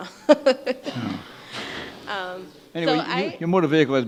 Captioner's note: woman laughs